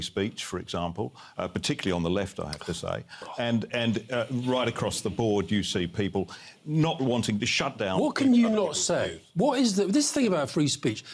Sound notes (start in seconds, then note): 2.6 scoffs